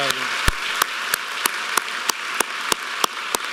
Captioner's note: applause